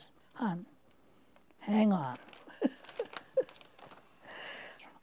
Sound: chuckling

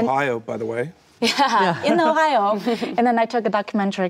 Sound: laughs

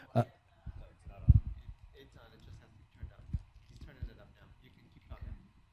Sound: faintly speaking

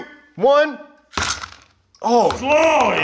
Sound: gold clatters

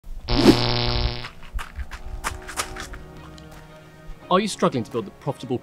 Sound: electricity humming

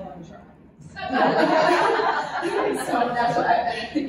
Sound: laughter

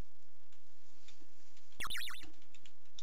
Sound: item sound

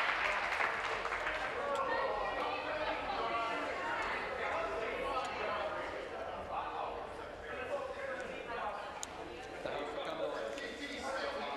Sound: applause

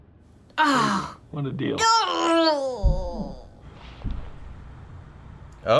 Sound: groans

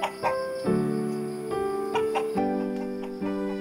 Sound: cluck cluck; cluck cluck

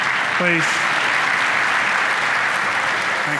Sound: audience applauding

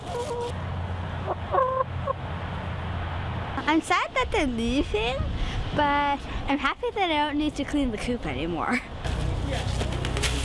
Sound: clucking

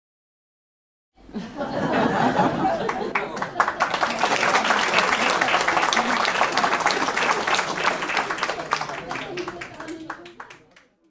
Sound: sound of applause and laughter

